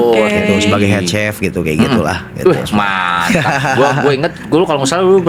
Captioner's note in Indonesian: tertawa